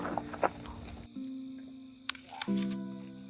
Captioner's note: crunches into apple